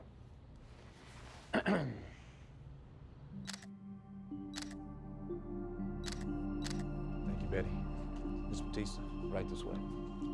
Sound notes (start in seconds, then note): 1.5 Tommy clears his throat; 2.9 camera shutter clicking; 3.3 relaxing music